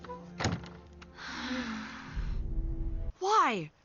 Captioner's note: collective sigh